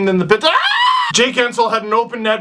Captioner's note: yells in distress